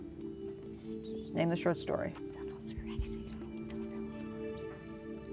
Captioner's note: whispering